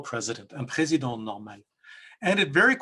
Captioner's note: speaks in French